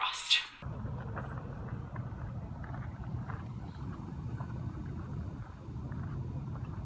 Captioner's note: wind blowing